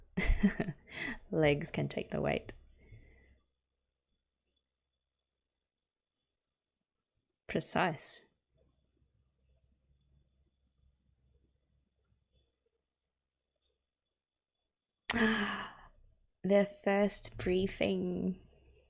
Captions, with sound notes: [laughs] Legs can take the weight. Precise. [gasps] Their first briefing!